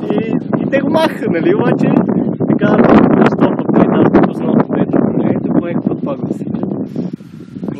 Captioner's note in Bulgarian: чува се вятър